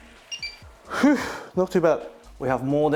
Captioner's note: sighs